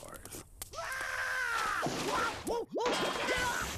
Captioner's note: screaming